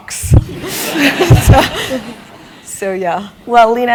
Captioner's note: laugh